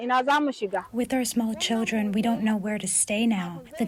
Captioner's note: through translator